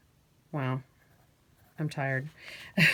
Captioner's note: chuckles